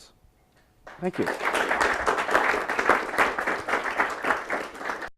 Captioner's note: applause